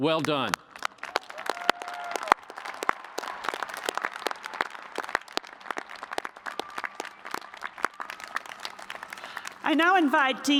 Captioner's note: cheers and applause